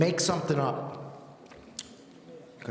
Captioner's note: none